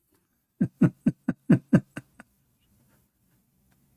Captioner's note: Ketawa